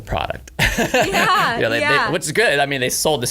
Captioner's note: laughter